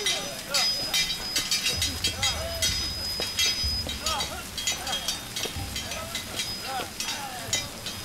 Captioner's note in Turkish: Bağırma sesleri; Kılıç sesleri; Bağırma sesleri